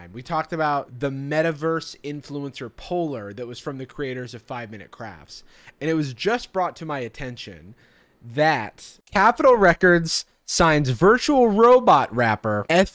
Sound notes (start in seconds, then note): none